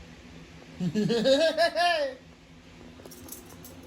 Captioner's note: laughs